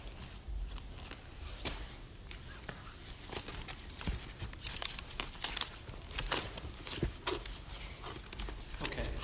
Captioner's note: papers rustling